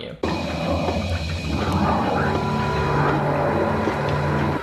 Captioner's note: Zeke the Plumber breathing